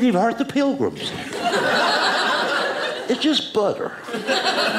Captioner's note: audience laughing